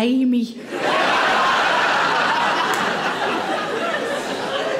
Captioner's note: audience laughing